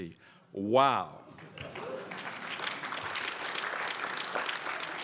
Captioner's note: crowd applauds